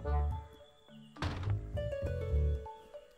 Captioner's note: Door closes